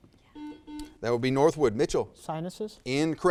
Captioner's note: buzzer